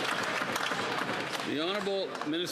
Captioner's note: some Applause